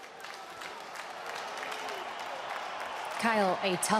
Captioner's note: crowd cheering